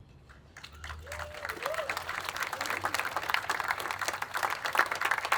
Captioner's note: attendees applauding